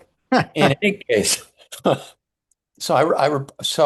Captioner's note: laughs